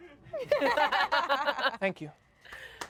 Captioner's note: everyone laughs